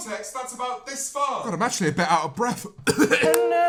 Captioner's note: coughs